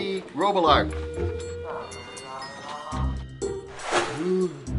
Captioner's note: whimsical string music; phone ringing; doctor groans